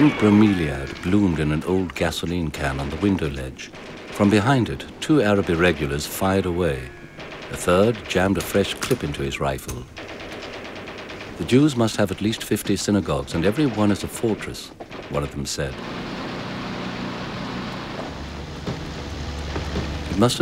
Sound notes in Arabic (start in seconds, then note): 10.1 إطلاق نار; 17.5 هدير محركات المركبات